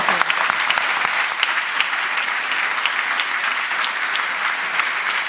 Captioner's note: applause